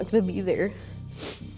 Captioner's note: sniffs